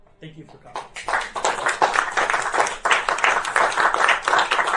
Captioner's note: applauding